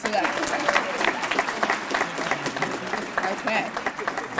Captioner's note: applause